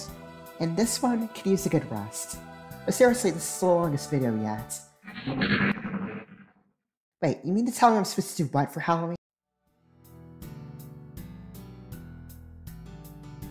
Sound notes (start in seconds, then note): 5.0 XCOM alien activity SFX